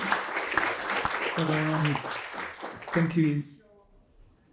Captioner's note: applause